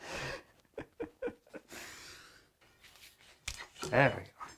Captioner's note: laughs